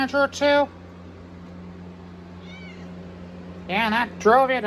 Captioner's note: Caprice meows